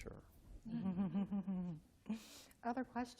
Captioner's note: laughter